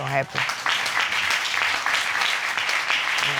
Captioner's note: audience clapping